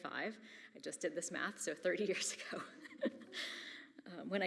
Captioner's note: chuckles